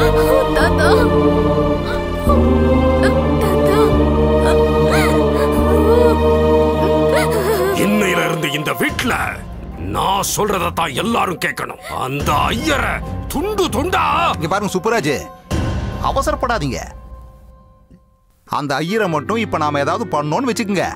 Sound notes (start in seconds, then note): 4.4 crying